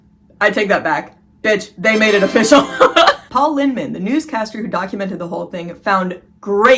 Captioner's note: triumphant sound effect